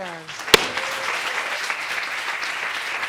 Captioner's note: audience applauding